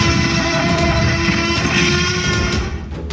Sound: T-Rex screeching; loud crashing

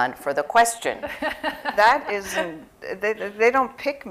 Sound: laughter

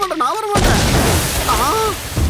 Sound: explosion

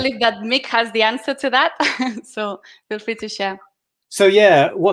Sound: chuckling

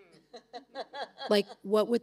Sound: laughing

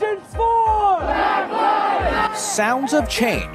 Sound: crowd

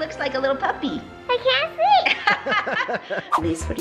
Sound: mom and dad laugh

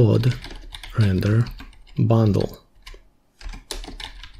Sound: typing

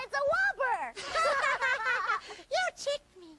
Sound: laughing

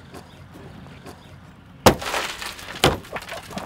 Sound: glass smashes; laughs

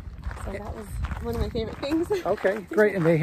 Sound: laughs

